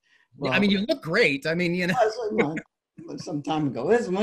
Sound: laughs

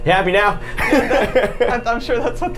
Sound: laughs

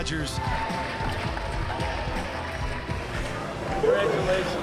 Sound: audience cheering

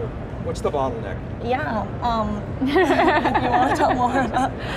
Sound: laughs

